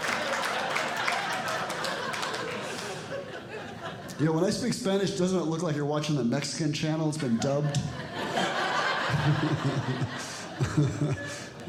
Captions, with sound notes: [Audience Laughing] When I speak Spanish doesn't it look like you're watching the Mexican channel that’s been dubbed. [Audience Laughing]